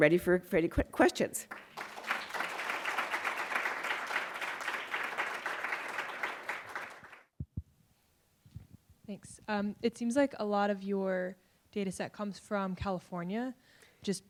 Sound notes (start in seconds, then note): 1.4 applause